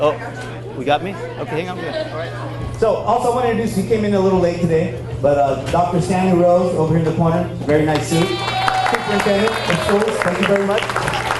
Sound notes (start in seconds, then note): 7.9 audience cheers and applauds; 11.1 audience applauds